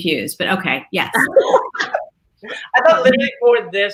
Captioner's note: laughing